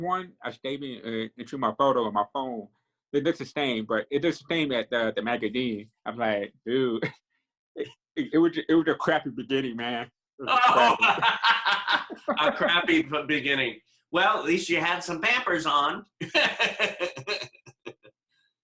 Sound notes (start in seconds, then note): 10.5 laughing; 16.2 laughing